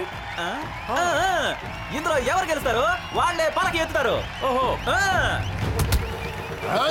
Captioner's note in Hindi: तालियाँ